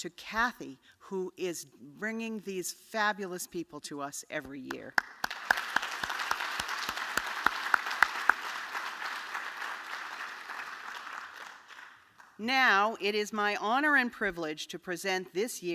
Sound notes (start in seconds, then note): 8.6 applause